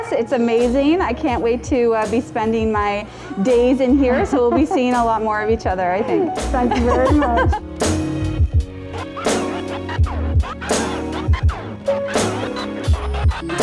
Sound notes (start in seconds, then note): 6.5 laughs; 8.7 jazzy music